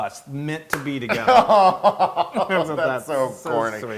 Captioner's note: laugh